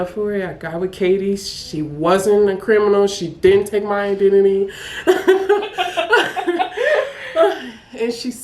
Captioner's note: laughing